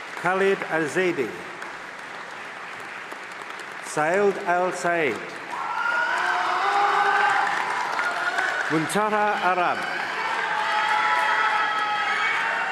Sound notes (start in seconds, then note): 2.3 applause; 5.5 screaming